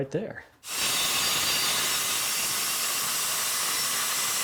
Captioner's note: saw buzzing